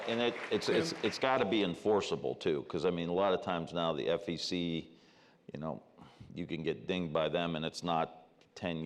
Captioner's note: applause